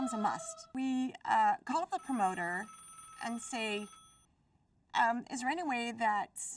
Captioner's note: phone rings